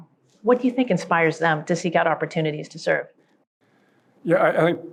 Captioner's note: none